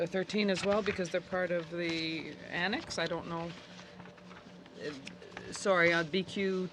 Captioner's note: speaking French